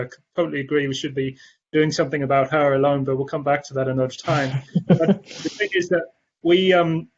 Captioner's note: laughter